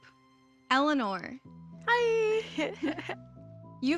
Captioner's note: laughs